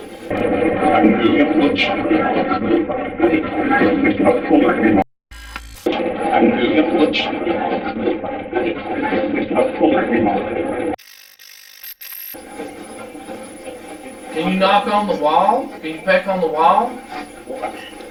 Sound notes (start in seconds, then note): 0.0 static playback transmitting; 5.5 static fizzing; 12.3 static fizzing; 12.5 static playback transmitting